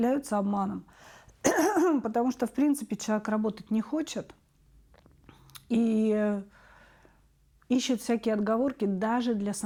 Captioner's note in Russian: откашливается